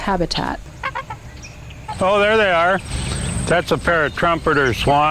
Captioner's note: birds Chirping